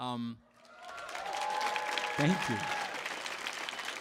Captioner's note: audience applauds